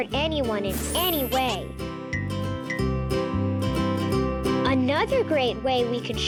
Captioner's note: planet laughing and clinking